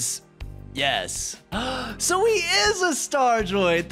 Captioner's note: gasp